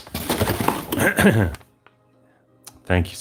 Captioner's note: clears throat